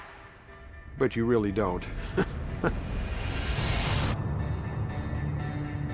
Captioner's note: chuckles